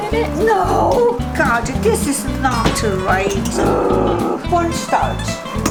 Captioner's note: frustrated growl